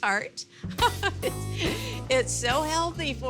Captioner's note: giggling